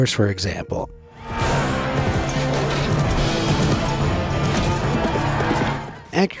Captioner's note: horse hooves thuds